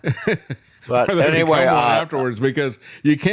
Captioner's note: laughing